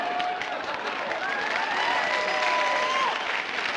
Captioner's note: crowd cheers